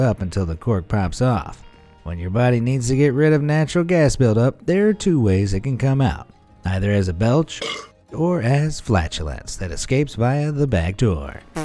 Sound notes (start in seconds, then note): 7.6 man belchs